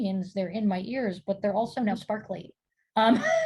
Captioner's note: laughing